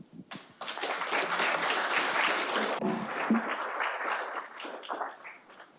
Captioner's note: audience applauding